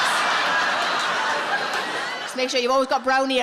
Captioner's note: audience laughs